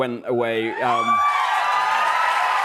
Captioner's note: cheers and applause